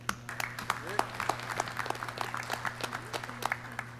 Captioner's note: clapping